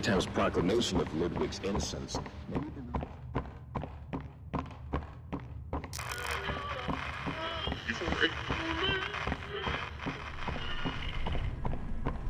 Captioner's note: footsteps